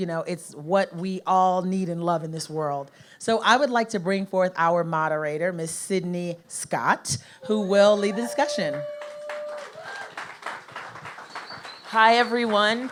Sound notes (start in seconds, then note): 7.7 audience cheers